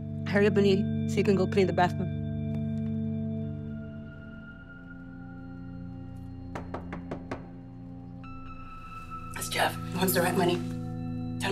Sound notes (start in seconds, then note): 6.4 Jeff knocking on door